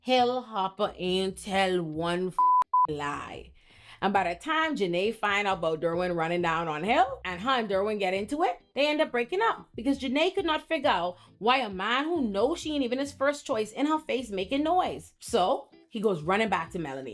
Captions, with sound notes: He'll hop a intel one (beep) lie. And by the time Janaye find out about Derwin running down on Hill and how Derwin get into it, they end up breaking up because Janaye could not figure out why a man who knows she ain't even his first choice in her face making noise. So, he goes running back to Melanie.